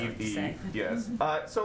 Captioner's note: laughs